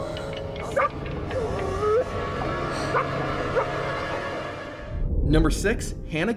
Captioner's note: chilling music; dog barking